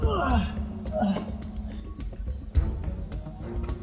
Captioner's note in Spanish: Sonidos de esfuerzo